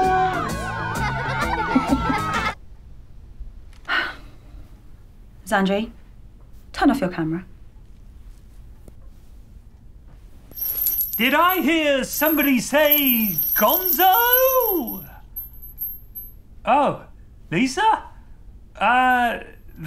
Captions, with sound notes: [CHEERING] [SIGH] Xandri. Turn off your camera. Did I hear somebody say "Gonzoooo"?! Oh. Lisa? Err...